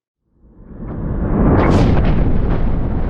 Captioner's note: thunder